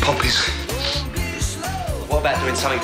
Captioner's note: sniffles